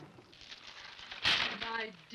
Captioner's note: beads jostle